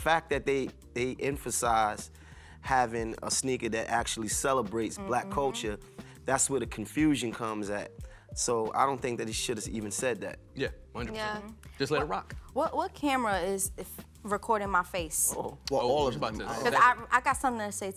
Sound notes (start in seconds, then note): none